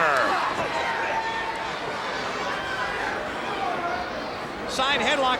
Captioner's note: crowd cheering